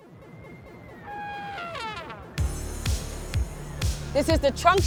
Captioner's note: elephant shout